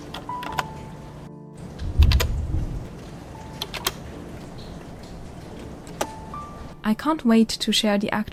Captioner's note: typewriter clicks